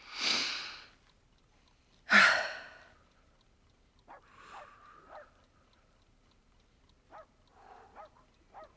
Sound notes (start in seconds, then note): 5.0 dog barking